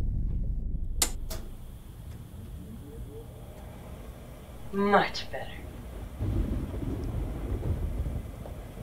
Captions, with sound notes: (clicking) Much better.